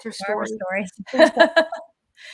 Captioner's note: laughter